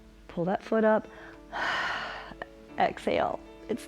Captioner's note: exhales; inhales